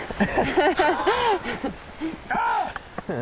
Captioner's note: both chuckling; woman chuckling